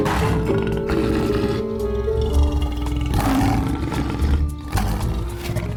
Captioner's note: roaring